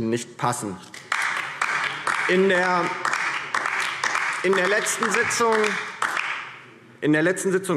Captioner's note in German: Beifall DIE LINKE